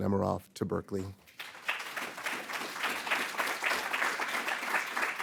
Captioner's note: audience applauding